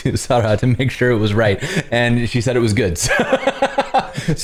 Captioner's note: laughter